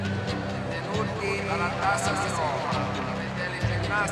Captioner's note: announcer speaking italian